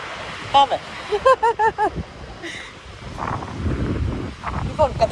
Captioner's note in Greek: γέλια